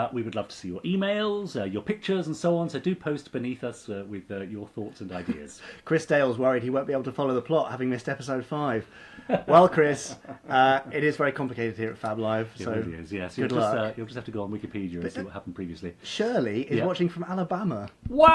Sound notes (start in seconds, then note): 9.2 laughing